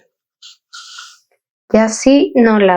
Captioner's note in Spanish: resoplido